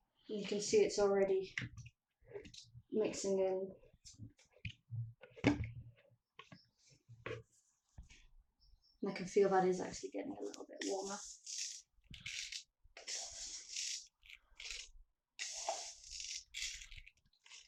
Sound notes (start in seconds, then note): 3.8 stirring noises; 11.7 pouring noises